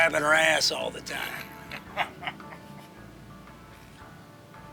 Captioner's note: Larry laughs